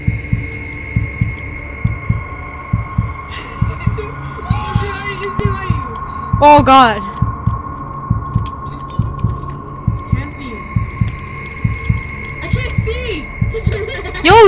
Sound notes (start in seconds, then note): 3.3 laughs nervously; 13.7 laughs